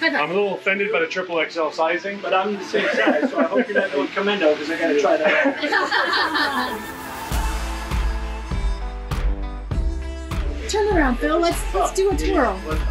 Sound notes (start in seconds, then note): 4.8 laughing